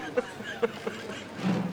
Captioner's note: laughing